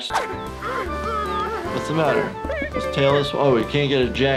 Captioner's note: indistinct chatting